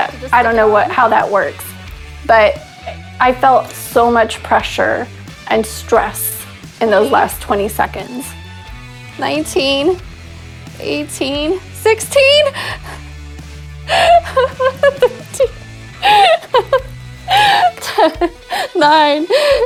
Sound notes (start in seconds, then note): 15.9 laughing